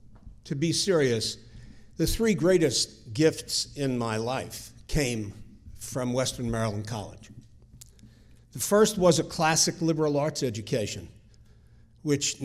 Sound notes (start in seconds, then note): none